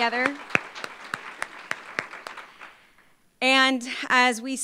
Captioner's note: applause